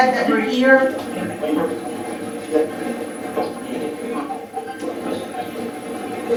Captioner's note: static playback transmitting